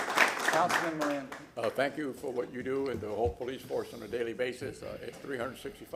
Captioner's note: applause